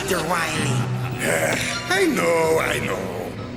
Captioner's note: sighs